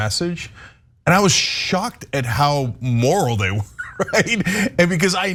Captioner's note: laugh